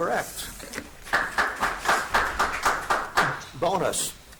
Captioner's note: audience applauds